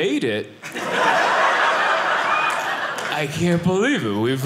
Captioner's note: audience laughing